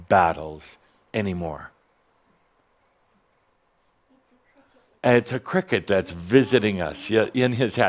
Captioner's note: someone’s cell phone rings with a cricket sound